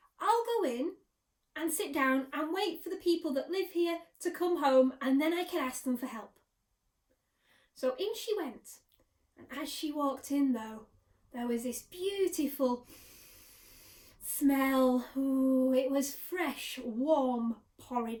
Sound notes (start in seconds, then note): 12.8 sniff